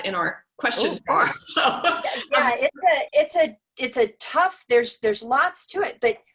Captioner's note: laugh